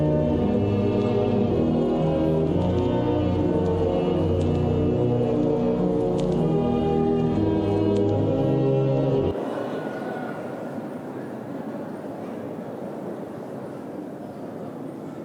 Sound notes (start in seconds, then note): 9.2 audience murmuring